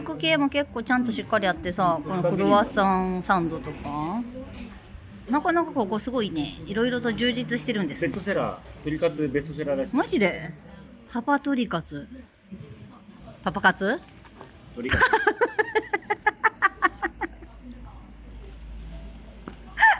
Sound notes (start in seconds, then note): 14.9 laughs